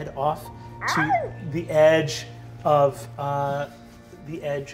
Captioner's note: appreciative howling